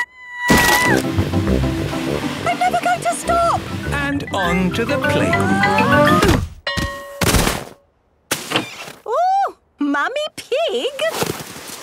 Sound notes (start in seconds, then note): 0.0 screaming; 4.9 exclaiming and grunting; 6.6 bell ringing